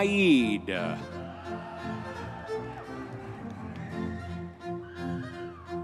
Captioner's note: audience members cheering; classical orchestral music continues